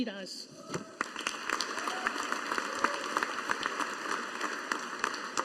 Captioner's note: audience applauding